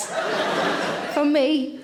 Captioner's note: audience laughing